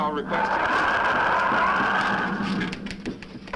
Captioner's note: wind howling